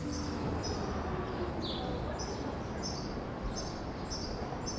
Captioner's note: birds chirping